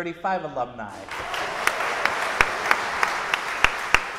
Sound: audience applauding

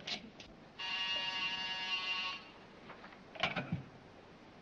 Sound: phone buzzes

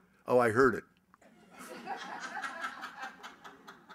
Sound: laughter

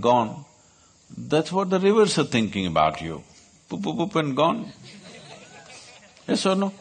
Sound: few laugh

